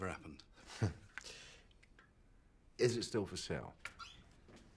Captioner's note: Rob chuckles